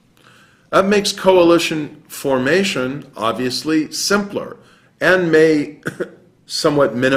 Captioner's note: cough